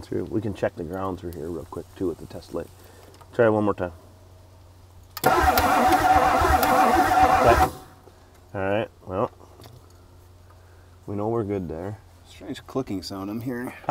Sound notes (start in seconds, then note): 5.1 vehicle engine clicking; 5.2 vehicle engine humming